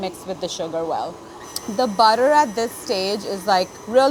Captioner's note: mixer whirring